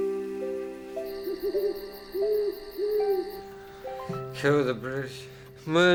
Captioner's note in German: Eulenschrei